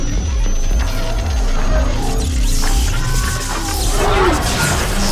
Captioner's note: computers beeping; pulsing; static crackling